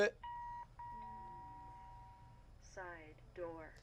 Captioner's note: beeping